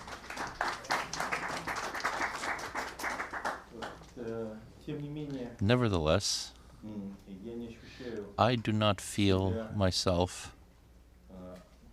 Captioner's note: applause